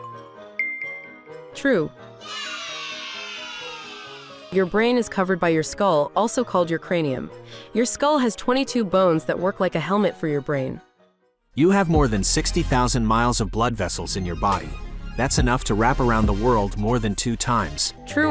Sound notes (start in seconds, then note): 2.2 children cheering